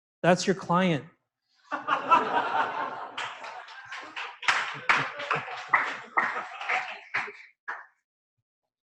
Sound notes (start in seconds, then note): 1.7 laughter; 4.1 applause